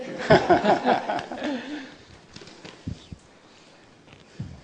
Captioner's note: people laughing